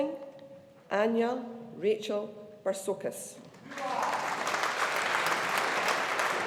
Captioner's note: audience applauding